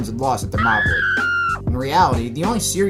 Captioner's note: woman shrieks